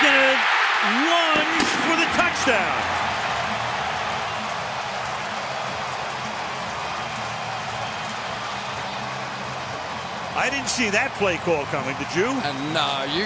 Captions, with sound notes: And he's gonna lunge for the touchdown. [cheering] I didn't see that play call coming, did you?